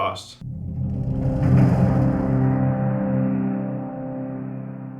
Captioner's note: intensifying rumble